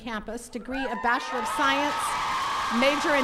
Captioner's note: attendees cheering